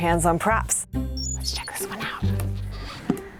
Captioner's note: whispering